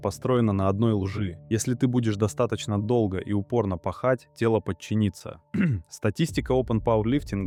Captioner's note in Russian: откашливается